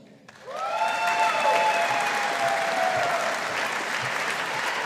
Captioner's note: audience applauding